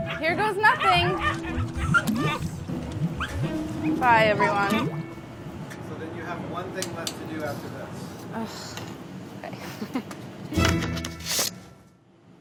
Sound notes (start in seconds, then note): 0.0 dogs barking; 8.6 groans